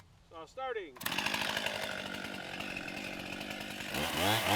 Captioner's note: chainsaw runs